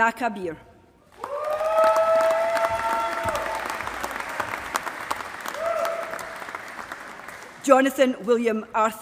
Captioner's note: applause